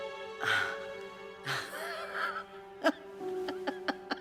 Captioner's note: Elisabeth laughing